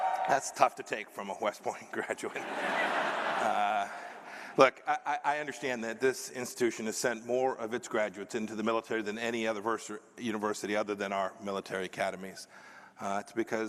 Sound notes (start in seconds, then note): 0.0 cheers; 2.2 laughter